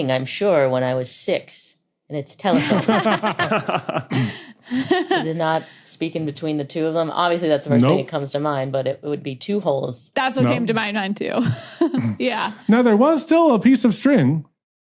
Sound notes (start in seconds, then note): 2.5 others laughing